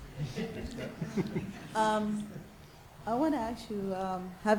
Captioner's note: audience laughs